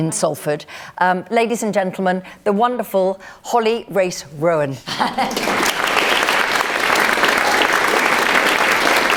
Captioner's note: applause